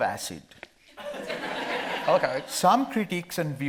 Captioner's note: audience laughing